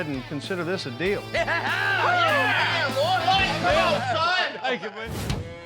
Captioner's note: cheering